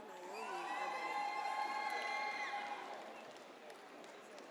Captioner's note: audience cheers